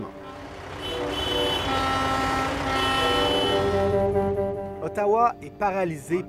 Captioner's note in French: klaxons